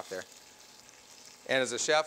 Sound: meat sizzling

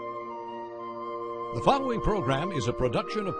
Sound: voiceover

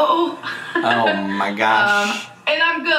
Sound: laughs

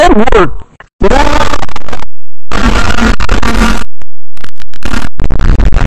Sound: audio glitch

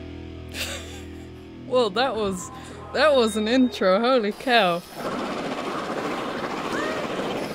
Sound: chuckles

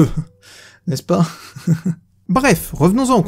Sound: sneers

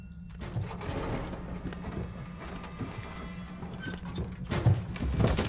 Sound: body clattering down pipe

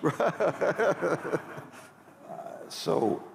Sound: laughter

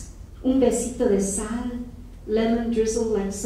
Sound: speaking in foreign language

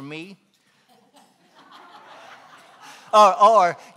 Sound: laughing

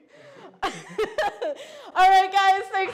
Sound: laughing

